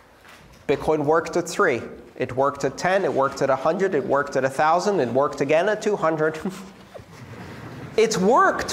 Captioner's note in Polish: Śmiech